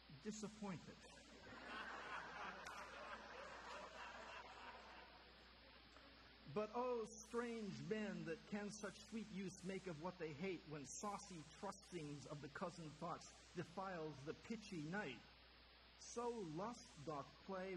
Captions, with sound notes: disappointed. [audience laughter] "But O, strange men, That can such sweet use make of what they hate, When saucy trusting of the cozened thoughts Defiles the pitchy night! So lust doth play